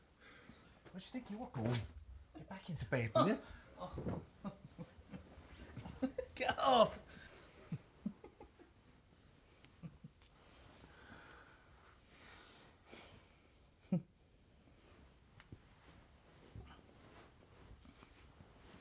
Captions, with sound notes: What do you think you are going? Get back into bed, will you? Get off! [Chuckles]